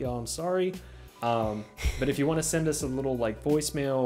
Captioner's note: sighs heavily